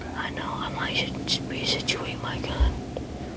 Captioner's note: whispering